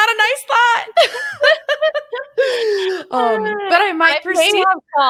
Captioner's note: laughter